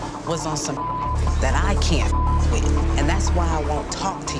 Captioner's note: beep